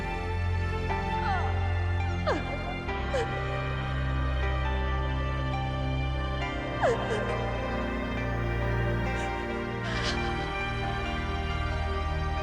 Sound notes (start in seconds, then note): 2.2 wracking sobs